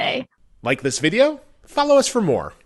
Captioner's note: voiceover